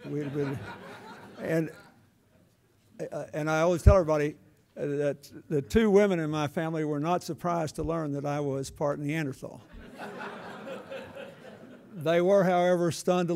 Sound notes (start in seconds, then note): 0.0 laughter; 9.7 laughter